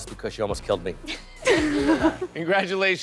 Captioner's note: all laughing